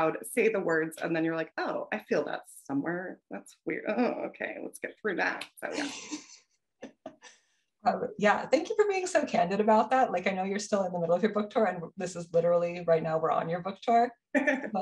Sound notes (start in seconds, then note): 5.7 chuckles